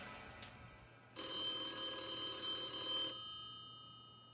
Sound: phone ringing

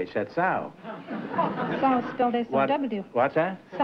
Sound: laughter

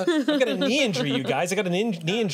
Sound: laughter

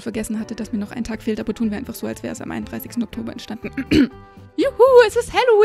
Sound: cough

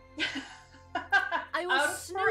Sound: laugh

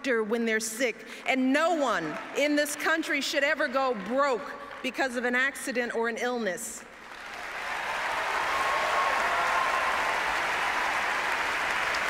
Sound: applause

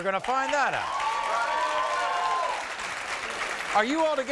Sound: audience cheering

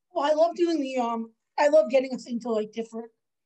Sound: none

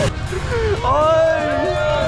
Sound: gasp

